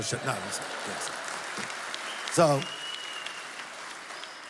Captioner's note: applause